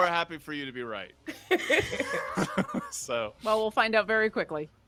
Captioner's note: both laughing